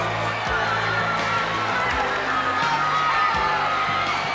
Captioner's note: audience cheering